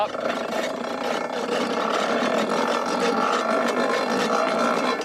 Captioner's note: machine whirring